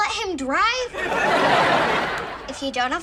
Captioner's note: audience laughs